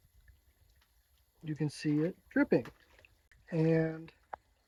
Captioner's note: water sloshing